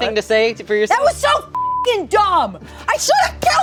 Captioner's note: beep